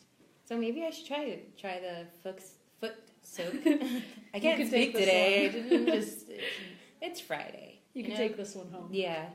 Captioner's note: both laugh